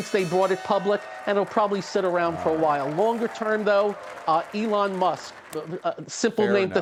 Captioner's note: bell ringing